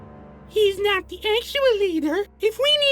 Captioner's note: mocking